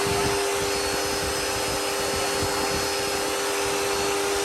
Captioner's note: none